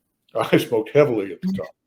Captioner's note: laughs